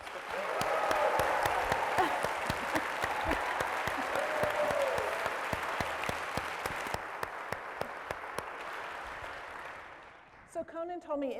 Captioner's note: applause